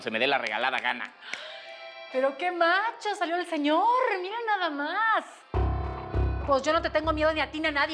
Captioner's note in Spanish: chasque los dedos